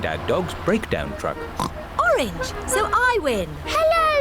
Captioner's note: oinks